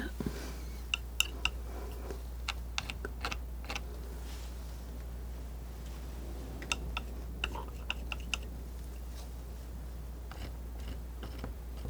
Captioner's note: tapping